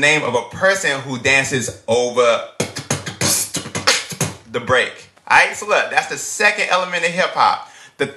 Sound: beat boxing

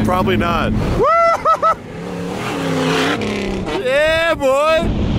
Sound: engine revving

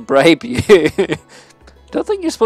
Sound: laughs

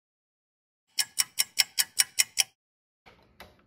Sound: sound of a ticking clock

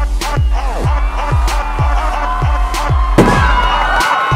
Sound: canon and cheers

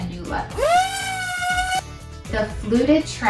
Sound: sander whirring

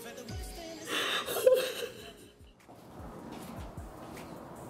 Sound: Crystal crying

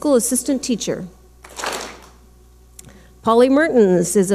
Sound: clap smack

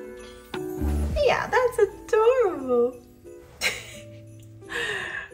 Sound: laughs

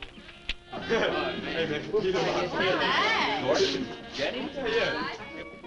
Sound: all chattering

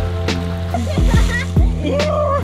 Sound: laughing

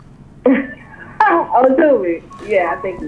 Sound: laughing

